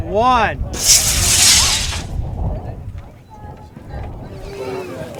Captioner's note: rockets launching; crowd noise